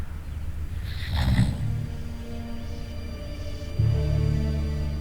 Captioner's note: growls